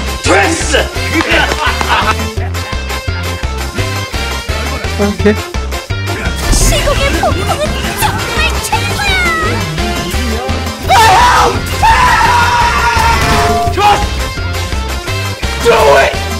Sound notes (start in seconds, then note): 1.1 laugh; 10.9 yelling; 13.1 crack